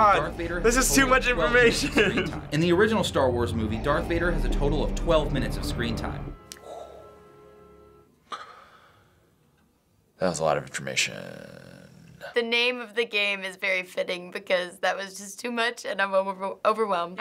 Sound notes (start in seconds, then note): 2.4 voice-over; 6.6 exhaling softly